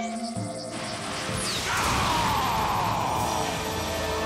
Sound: grunting

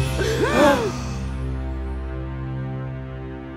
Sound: gasping

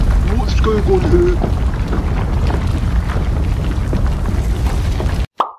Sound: ground rumbles

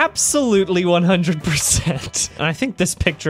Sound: chuckles

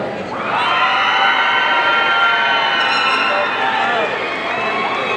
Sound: audience cheering

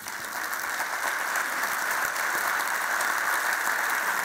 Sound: audience applause

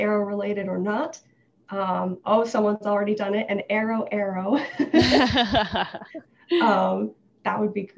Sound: both laugh

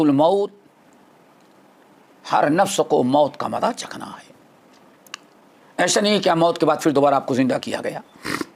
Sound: in Arabic

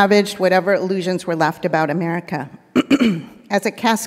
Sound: clears throat

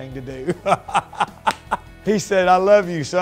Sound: laughs

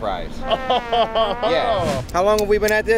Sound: chuckles

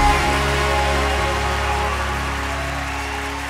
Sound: applause

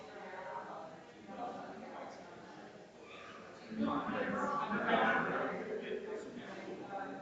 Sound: people chattering distantly continues

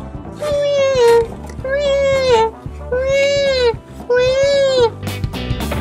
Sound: crying

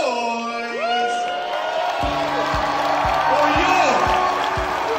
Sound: crowd applauding

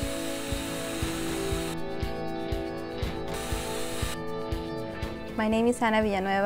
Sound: drill sounds

